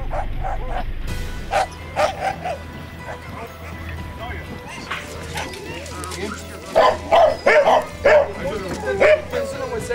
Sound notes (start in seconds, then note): 0.1 soft music; 1.3 dogs barking